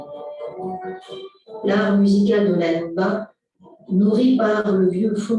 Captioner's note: non-english speech